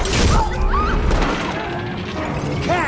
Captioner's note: screams